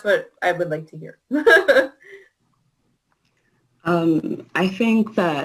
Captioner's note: laughs